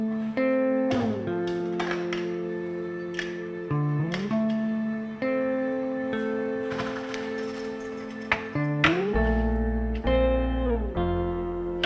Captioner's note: equipment clattering